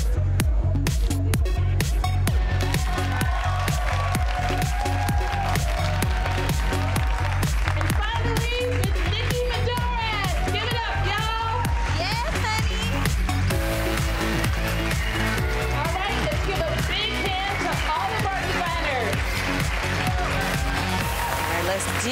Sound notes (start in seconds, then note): 3.3 attendees cheering; 13.8 up tempo electronic music; 19.6 attendees applauding